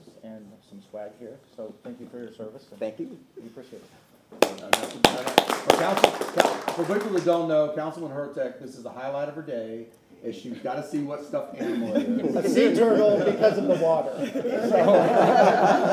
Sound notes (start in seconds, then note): 7.8 applause